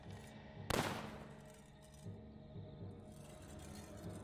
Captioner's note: gun firing